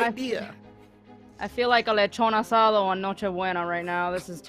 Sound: speaking in foreign language

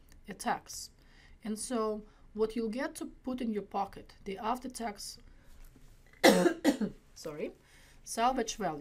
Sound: cough

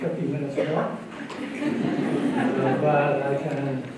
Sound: laughter

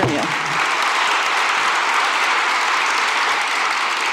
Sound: applause

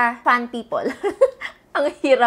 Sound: giggles

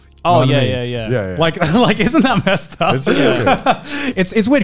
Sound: chuckles

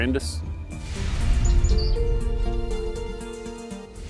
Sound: birds chirping

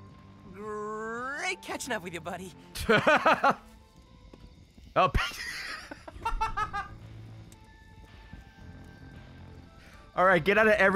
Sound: laughs

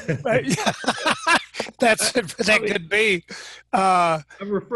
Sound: laughing

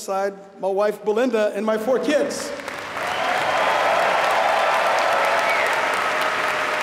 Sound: applause

